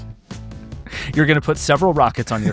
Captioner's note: chuckles